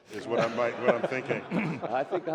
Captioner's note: laughter